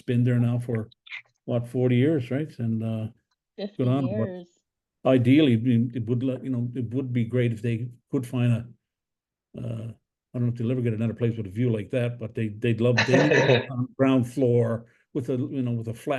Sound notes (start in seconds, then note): 13.2 laughs